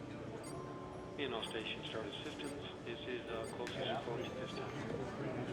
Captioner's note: chatter on radio